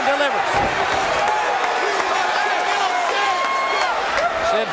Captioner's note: audience cheering